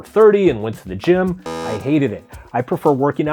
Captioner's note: timer buzzes